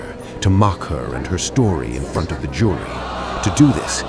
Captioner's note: crowd gasping